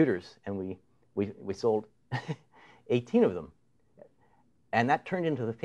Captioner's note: chuckles